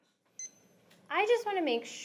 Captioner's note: beeping sound